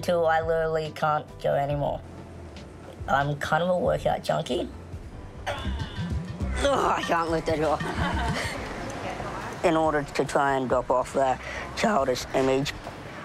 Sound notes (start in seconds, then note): 5.4 groans; 6.6 woman chuckles